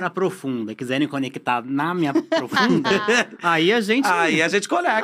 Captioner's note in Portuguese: risos